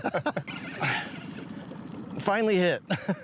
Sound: both laughing; reel whirring; chuckling

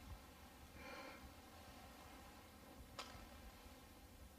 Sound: breathing

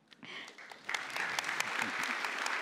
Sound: applause

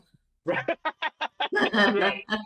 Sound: laughs

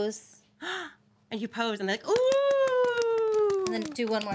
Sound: girl claps

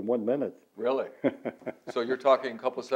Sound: laughter

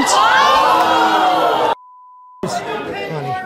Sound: audience boos

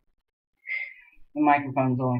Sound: sighs

